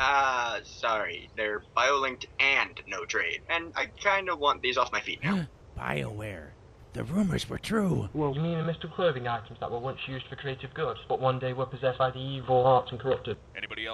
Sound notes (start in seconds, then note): 5.0 gasps